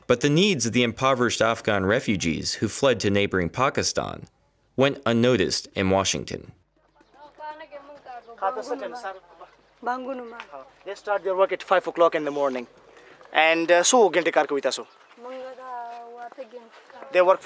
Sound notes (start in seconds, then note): 8.3 speaking in foreign language; 13.6 speaks in foreign language